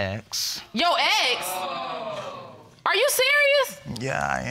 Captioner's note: audience exclaims